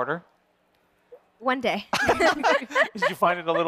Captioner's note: laughing